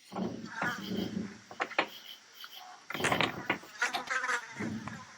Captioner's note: flies buzzing